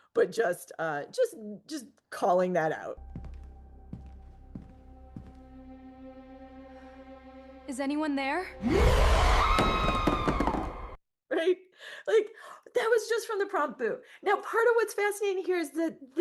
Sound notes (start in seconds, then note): 3.0 dramatic music; 8.6 screaming